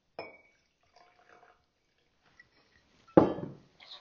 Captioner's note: bottle knocks on glass, then whiskey pouring; bottle knocks on table